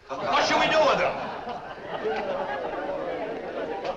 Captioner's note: laughter